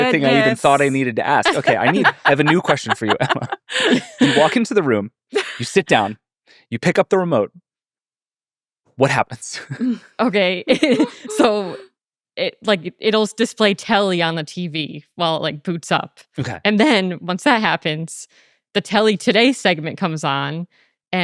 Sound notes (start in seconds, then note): 1.4 laughing